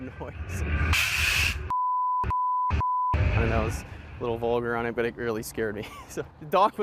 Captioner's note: spooky sound